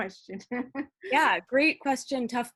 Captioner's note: laughs